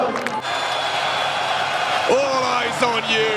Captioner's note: crowd cheering